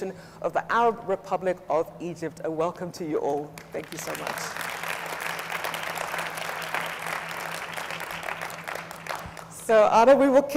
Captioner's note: audience applauds